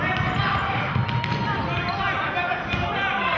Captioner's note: yelling